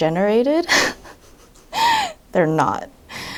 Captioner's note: laughs